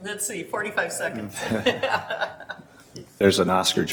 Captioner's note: laughing